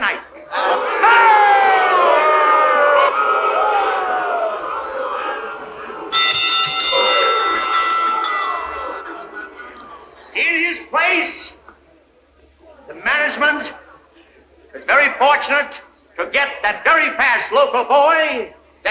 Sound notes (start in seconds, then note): 0.2 crowd boos; 5.7 bell rings